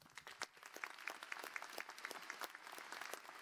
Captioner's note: applause